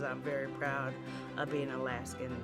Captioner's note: laughs